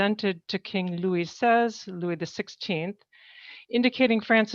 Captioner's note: speaking french